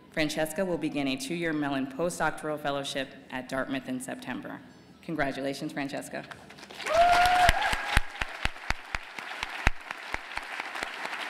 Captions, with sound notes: Francesca will begin a two year Mellon postdoctoral fellowship at Dartmouth in September. Congratulations, Francesca. [APPLAUSE AND CHEERS]